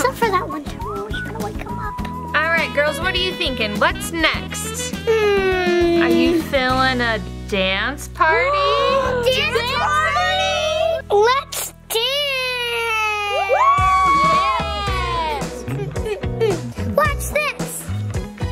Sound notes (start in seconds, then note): 12.7 all cheering; 15.3 upbeat music; 17.6 humming